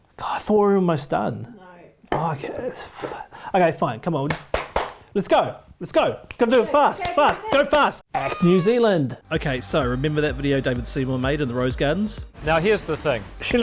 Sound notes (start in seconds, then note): 4.3 presenter clapping; 5.6 presenter snaps his fingers; 6.9 presenter clapping